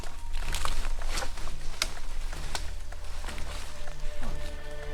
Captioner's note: leaves rustling; twigs snapping